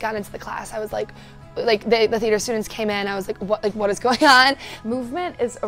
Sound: gasp

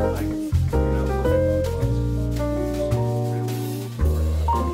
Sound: speaking faintly

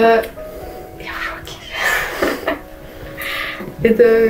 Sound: laughing

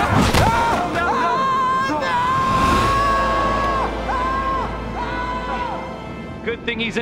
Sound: screaming

